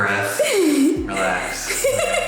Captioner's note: laughing